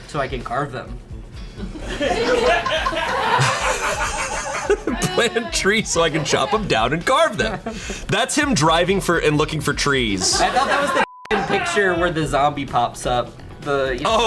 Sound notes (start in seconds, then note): 1.6 and colleagues laughing; 10.1 colleagues laughing; 10.3 beeps